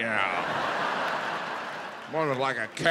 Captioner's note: audience laughing